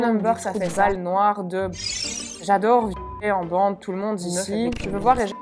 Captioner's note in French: bip